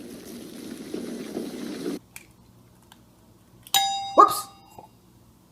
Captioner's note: egg splitting intensifies